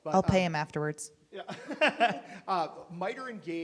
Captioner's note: laughing